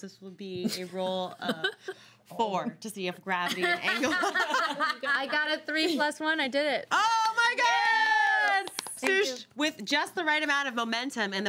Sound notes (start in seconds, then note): 3.5 girls laughing; 7.1 girls clapping and cheering